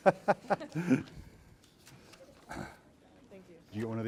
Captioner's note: laughs